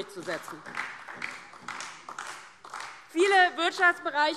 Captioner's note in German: Beifall DIE LINKE und SPD